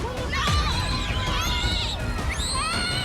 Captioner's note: children screaming